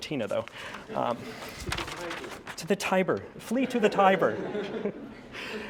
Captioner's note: laugh